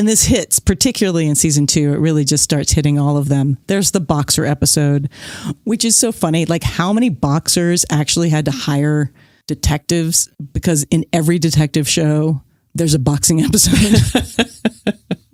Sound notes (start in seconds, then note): 13.5 guffaw; 13.5 laughs